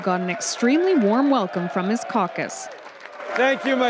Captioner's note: applause